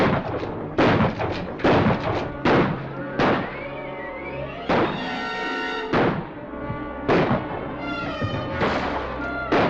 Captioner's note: gunshots - tense music